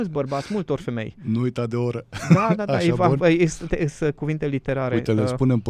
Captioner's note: laughter